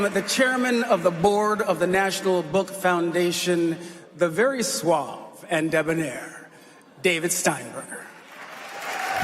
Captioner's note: applause